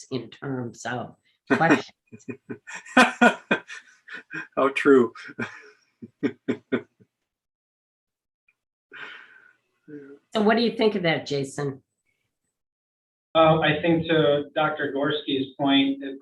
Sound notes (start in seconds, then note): 2.2 laughter; 5.5 laughs